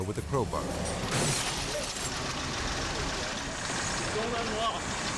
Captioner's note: window shatters